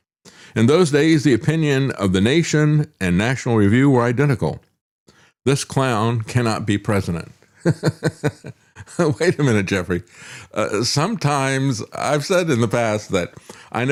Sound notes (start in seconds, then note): 7.6 laughs